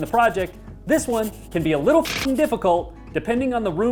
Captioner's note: mechanical sound